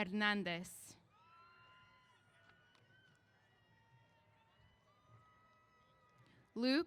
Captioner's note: cheers